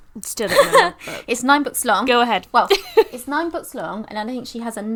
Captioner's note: laughs